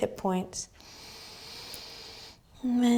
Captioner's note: inhaling